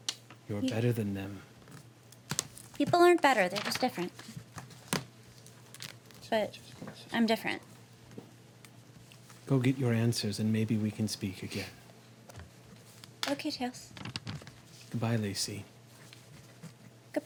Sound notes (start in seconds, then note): none